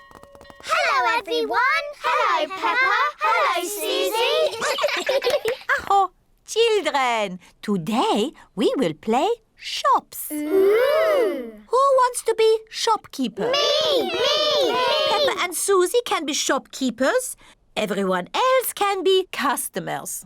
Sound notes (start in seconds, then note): 4.1 all laugh; 5.0 claps hands; 5.5 exclaims